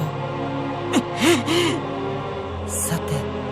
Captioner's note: fuming